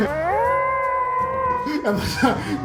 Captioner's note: high-pitched wolf howl